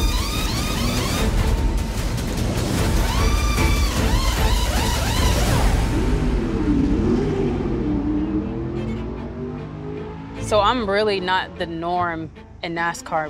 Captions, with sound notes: (car engine revving) So I'm really not the norm in NASCAR,